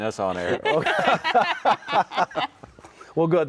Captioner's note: everyone laughing